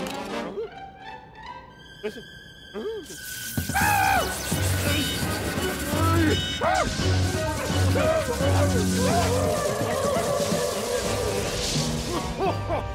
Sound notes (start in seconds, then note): 2.5 electrical power noises; 4.6 thunder crashing, static